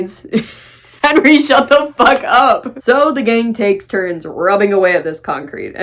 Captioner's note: laughing